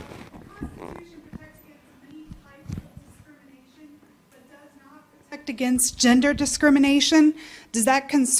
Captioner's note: off mic